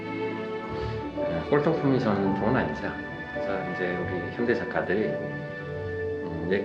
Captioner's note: continues speaking in Korean